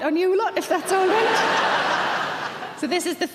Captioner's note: audience laughing